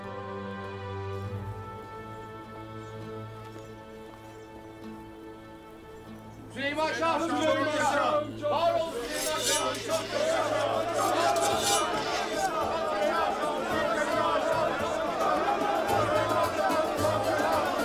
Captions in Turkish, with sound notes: Süleyman Şah'ım çok yaşa! -Varol Süleyman Şah'ım! (Kılıç sesleri) -Süleyman Şah'ım çok yaşa! -Süleyman Şah'ım çok yaşa! -Süleyman Şah'ım çok yaşa! -Süleyman Şah'ım çok yaşa! -Süleyman Şah'ım çok yaşa! -Süleyman Şah'ım çok yaşa!